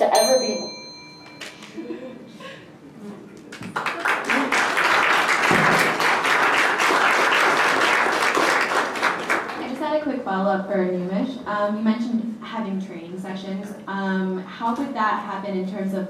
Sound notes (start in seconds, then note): 0.0 loud ding from timing bell; 3.5 applause